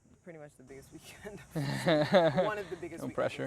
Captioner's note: laughs